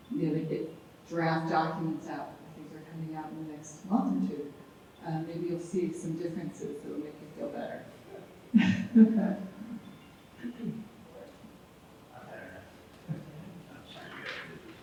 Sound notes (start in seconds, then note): 8.6 woman chuckles